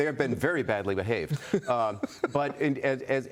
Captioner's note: laughter